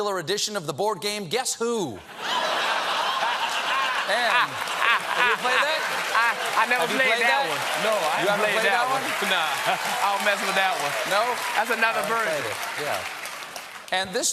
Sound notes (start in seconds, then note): 3.7 applause; 3.7 laughter